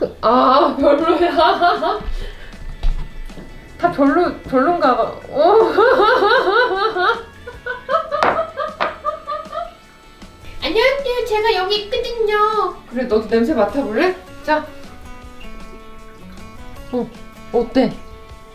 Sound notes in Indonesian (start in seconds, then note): 0.4 tertawa; 5.2 tertawa